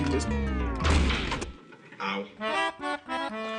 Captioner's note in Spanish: Portazo